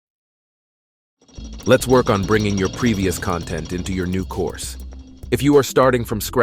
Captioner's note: gears spinning